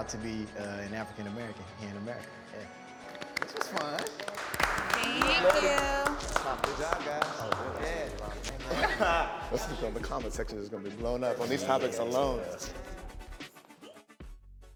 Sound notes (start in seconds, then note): 3.0 panelists clapping; 13.3 pensive rhythmic music